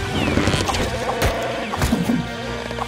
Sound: chewbacca growls

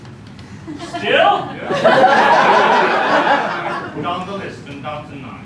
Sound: laughter

